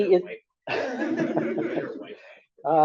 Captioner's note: laughs